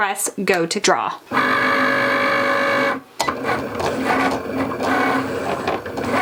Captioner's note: Cricut machine whirring